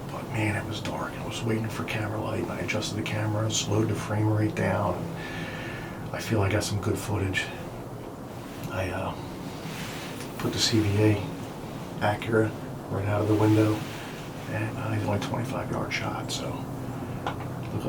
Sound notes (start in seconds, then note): none